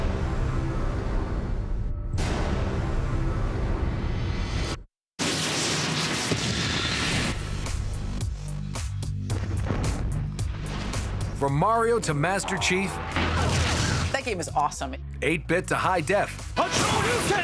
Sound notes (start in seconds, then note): 0.0 ominous music plays; 7.0 explosion